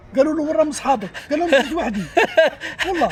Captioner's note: laughs